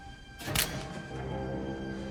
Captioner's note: wood snapping